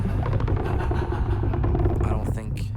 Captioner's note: laughing